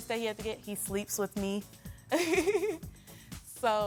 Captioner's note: laughs